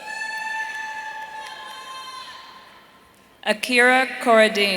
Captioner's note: audience cheering